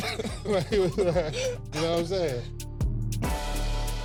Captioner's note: laughter